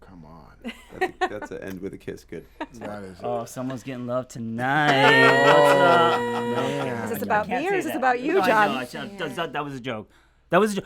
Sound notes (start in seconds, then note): 6.8 group chuckles